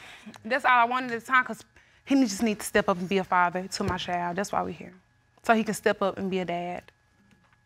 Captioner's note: none